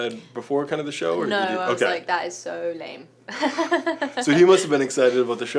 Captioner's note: laughs